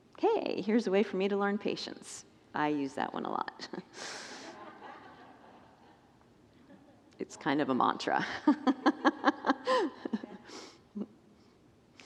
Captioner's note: congregants laugh